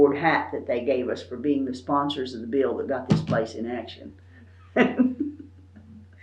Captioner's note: laughs